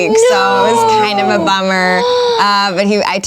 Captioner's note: grunts of disapproval